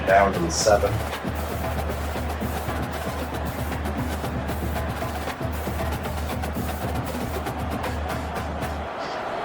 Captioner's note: crowd Noises